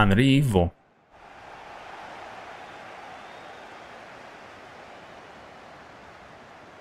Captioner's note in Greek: χειροκρότημα